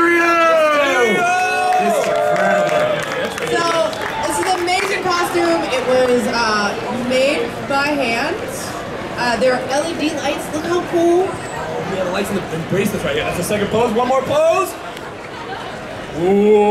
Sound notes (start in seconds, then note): 11.9 audience chattering